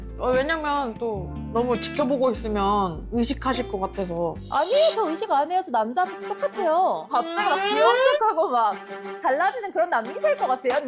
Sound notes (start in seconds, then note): 4.4 worked-up sound effect; 7.3 voice getting cutesy sound effect